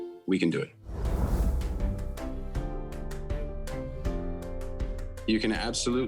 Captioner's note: image whooshing; upbeat instrumental music